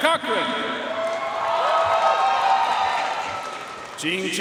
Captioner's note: audience cheering and applauding